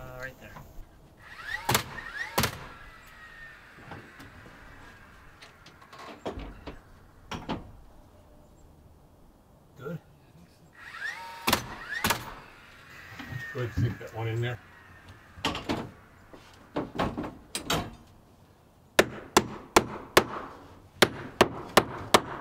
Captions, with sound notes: Right there. (nails banging loudly) - Good, sync that one in there. (hammer banging loudly)